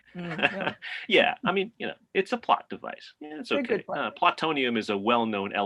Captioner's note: laughs